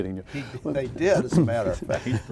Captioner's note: laughing